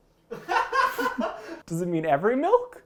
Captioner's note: man laughing